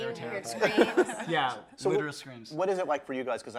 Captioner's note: group laughs